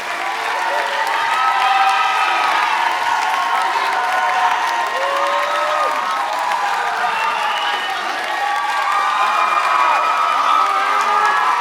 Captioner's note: applause